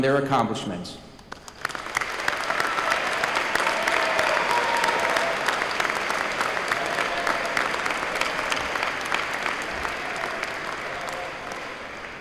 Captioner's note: applause